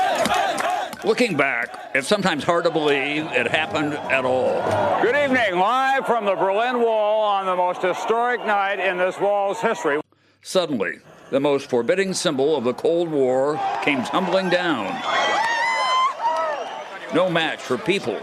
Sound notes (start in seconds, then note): 6.2 cheers